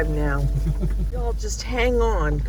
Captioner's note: laughs